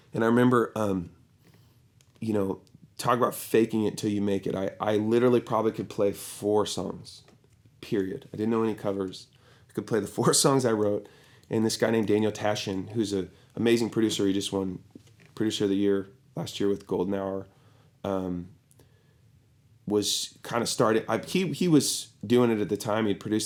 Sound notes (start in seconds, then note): none